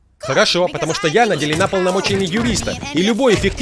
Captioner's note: grunting